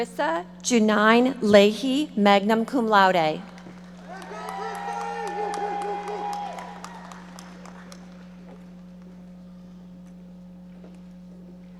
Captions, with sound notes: Charissa Janyne Lahee, magna cum laude. (audience cheering and applauding)